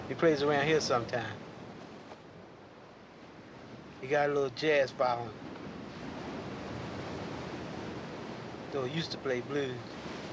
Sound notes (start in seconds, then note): none